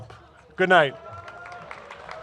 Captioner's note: cheers and applause